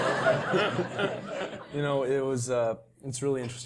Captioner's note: laugh